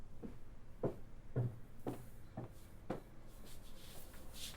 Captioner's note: footsteps thud